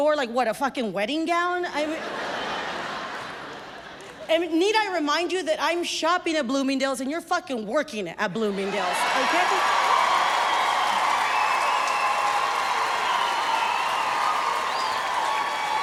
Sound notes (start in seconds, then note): 1.8 audience laughs; 8.6 crowd cheering and applauding